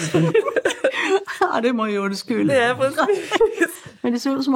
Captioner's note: laughing